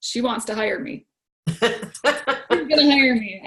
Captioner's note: laughs